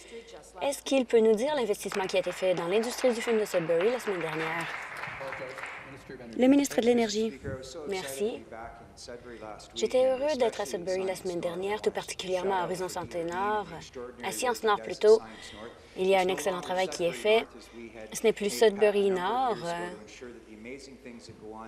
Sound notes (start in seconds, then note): 6.9 applause